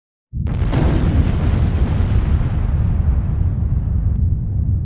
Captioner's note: thunder rumbling